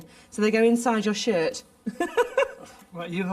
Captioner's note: laughs